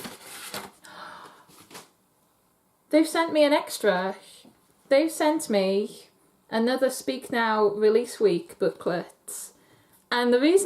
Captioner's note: gasp